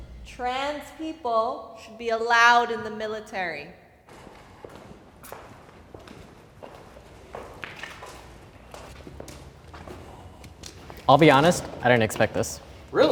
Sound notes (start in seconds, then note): 0.0 air whooshing; 4.0 footsteps approaching